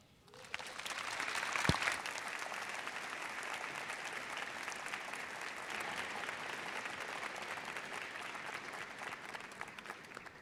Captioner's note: audience cheers and applause